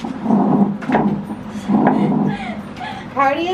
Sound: whooshes

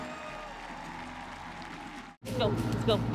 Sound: crowd cheers

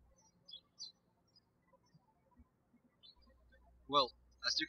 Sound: birds chirping

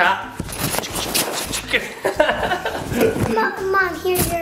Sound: laughing

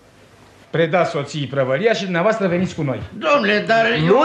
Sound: none

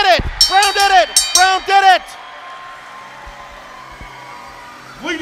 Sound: bell dinging

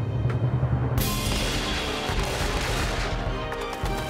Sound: gun firing

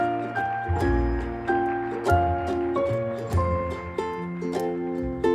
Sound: applause from within

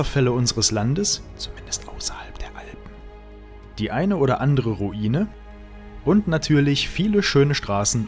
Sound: whispered: at least outside the Alps

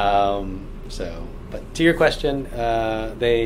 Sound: none

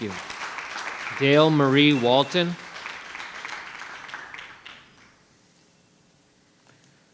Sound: attendees applauding

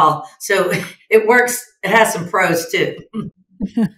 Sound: chuckles

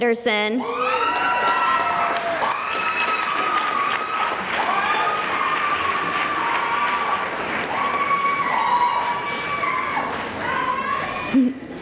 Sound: cheering and applause

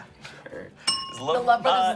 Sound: bell dings

